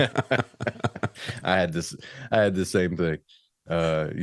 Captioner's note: laughs